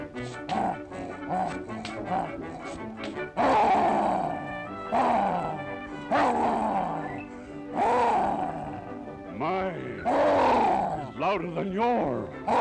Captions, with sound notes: My (Roar) is louder than yours.